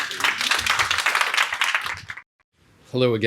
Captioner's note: audience clapping